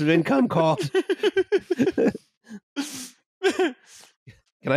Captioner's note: laughter